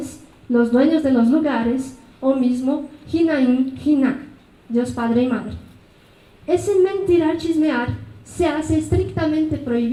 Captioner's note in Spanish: habla en mazateco